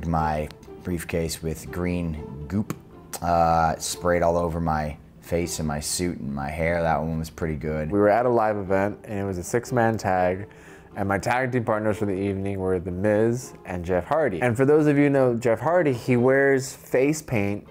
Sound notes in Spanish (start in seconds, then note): none